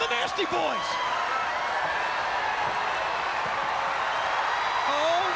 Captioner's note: crowd cheering